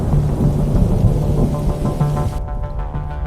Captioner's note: thunder rumbling